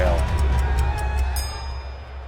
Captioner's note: crowd cheering